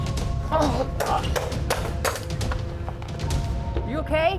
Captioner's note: gunshots